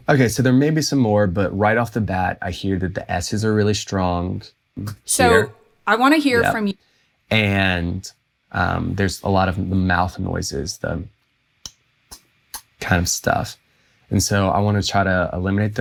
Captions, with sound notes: so there may be some more but right off the bat, I hear that the s's are really strong here. "I want to hear" . And there's a lot of mouth noises, the *mimics mouth noises* 3:35 kind of stuff. And so I want to try to eliminate